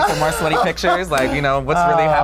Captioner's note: laughs